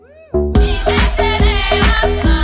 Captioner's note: audience cheers; group singing in Native language